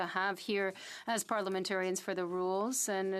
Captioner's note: speaking French